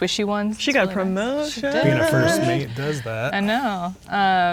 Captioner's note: singsong